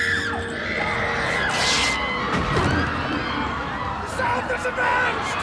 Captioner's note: audience gasps